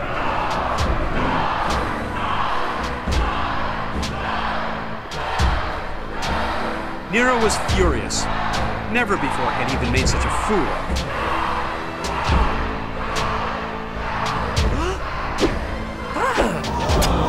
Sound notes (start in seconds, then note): 1.0 crowd chanting "die"